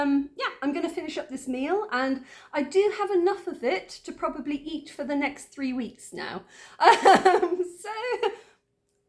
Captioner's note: laughing